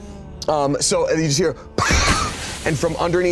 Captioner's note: imitates explosion